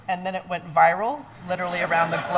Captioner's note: laughing